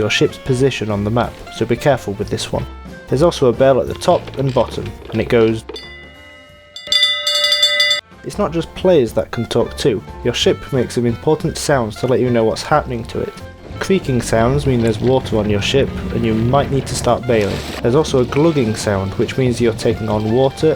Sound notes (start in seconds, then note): 5.7 bell rings; 5.7 bell ring spam